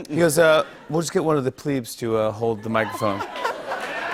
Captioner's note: cheers